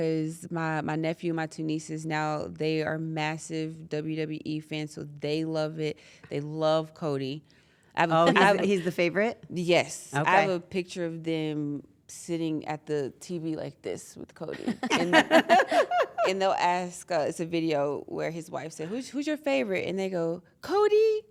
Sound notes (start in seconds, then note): 14.6 laugh